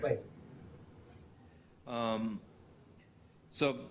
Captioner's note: pause